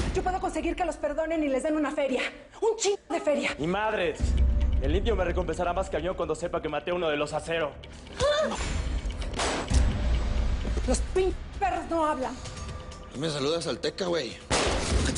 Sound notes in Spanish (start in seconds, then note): 9.3 Disparo; 14.4 Disparo